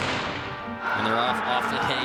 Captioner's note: gun shot firing